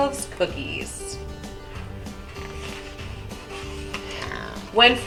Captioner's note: cow moos; pigs oinking